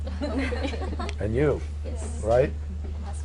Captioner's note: laughter